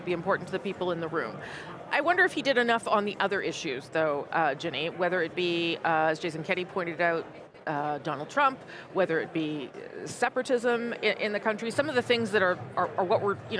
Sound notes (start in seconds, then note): none